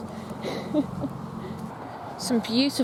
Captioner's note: giggles